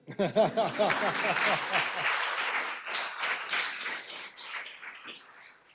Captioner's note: laughs; audience applauding